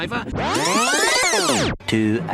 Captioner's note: TF2 Red Tape Recorder sound